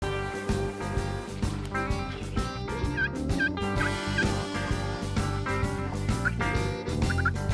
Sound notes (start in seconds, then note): 0.0 upbeat music; 0.7 turkey calling